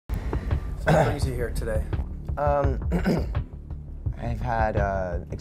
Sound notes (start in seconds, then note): 0.8 clears throat; 2.8 clears throat